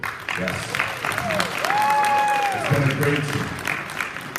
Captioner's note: applause